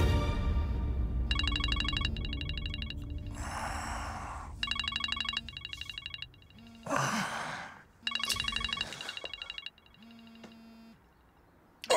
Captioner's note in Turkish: Telefon çalıyor